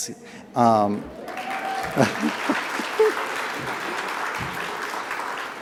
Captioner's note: audience applauds